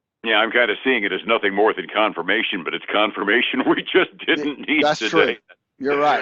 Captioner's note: laughs